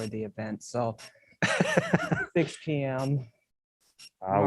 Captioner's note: laughter